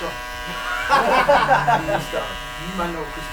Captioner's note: laughing